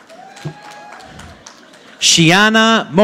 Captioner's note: audience applauding